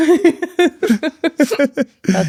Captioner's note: laughing